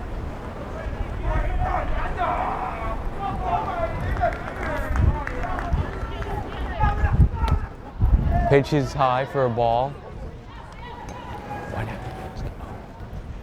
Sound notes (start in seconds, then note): 0.6 players yelling